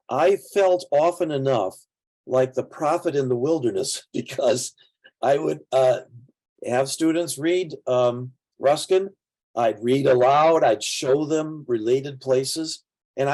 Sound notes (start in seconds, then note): 4.3 chuckling